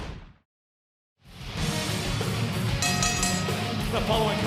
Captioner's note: bell ringing